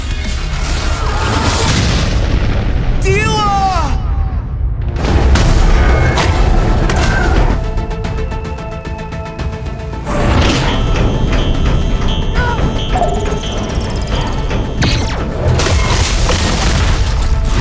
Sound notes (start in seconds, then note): 8.4 energetic music continues; 10.9 alarm blaring